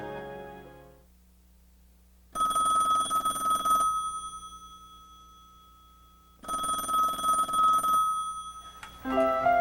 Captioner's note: phone ringing